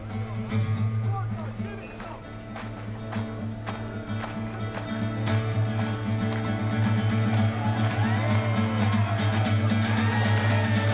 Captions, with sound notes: Go on, Dodge, give it some! [rhythmic clapping]